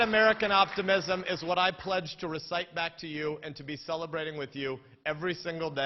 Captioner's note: applause